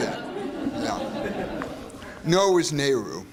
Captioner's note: laughter